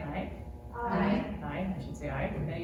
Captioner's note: voices say "aye"